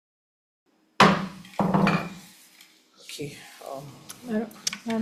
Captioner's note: gavel thumps